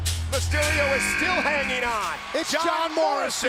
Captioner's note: buzzer sounds